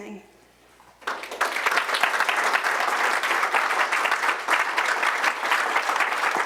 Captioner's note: applause